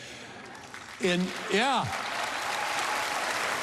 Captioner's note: cheering and applause